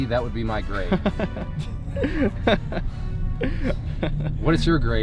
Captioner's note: laughs